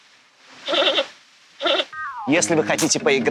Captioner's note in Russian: звук панды